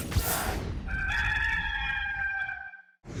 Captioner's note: rooster crowing